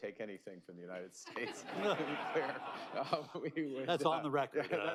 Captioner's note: laughs; laughter